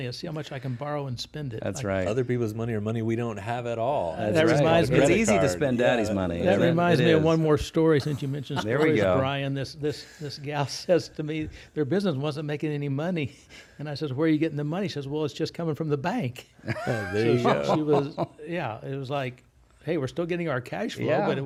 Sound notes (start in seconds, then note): 16.6 laughs